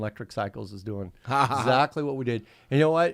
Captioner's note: laughing